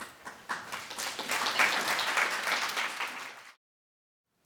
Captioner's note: clapping